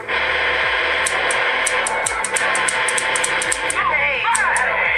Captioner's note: gun fire